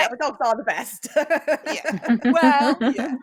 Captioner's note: chuckles